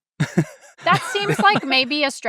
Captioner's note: laughs